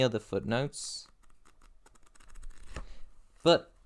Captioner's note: pages turning